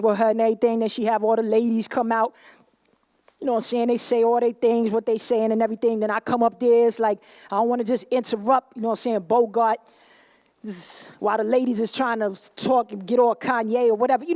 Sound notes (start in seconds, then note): none